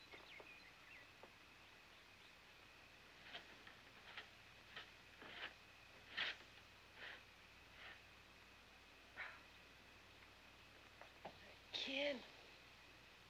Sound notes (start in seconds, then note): 9.8 sighs